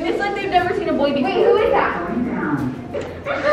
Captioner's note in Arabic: صوت المصعد